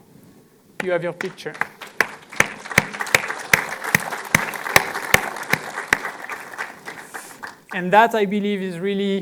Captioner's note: applause